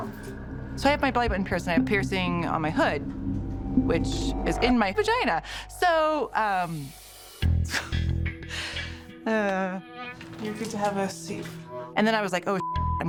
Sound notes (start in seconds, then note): 7.7 chukles